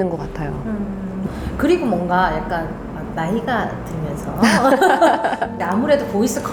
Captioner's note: laughing